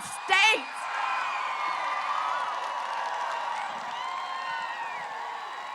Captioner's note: applause